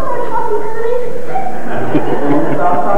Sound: laughter

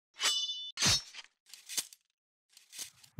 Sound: sword slashing

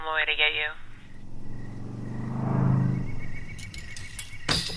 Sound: cars passing

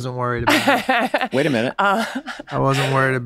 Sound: laughs

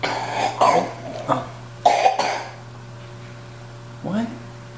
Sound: imitates chomping

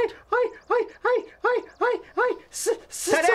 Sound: stuttering

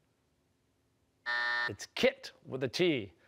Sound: buzzer

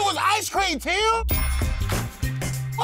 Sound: bell dings

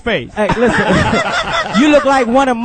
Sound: all laugh

